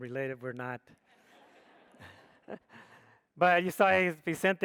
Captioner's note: audience laughs